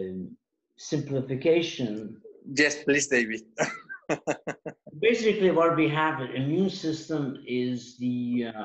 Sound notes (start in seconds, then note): 3.5 laugh